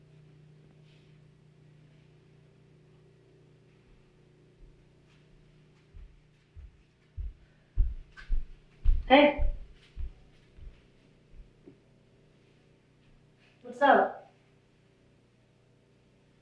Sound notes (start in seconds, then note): 7.7 footsteps thumping